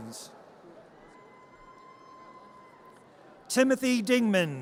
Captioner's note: audience cheers